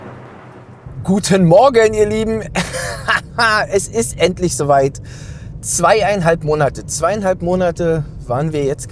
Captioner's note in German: gelächter